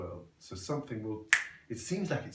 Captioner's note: snaps fingers